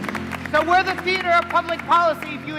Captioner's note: applause